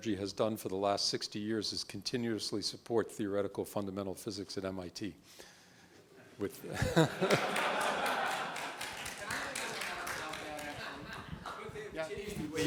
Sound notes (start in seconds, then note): 6.6 laughs; 6.9 applause